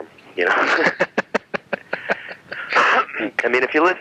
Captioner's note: laughing